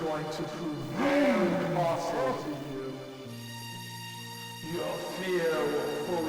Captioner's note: monster yells